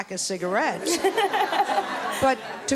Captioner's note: laughs